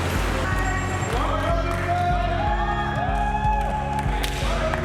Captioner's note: cheering excitedly